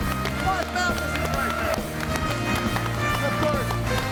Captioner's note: audience applauds and cheers